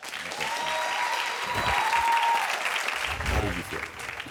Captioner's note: audience cheering